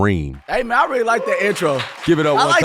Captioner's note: audience applauding; crew cheering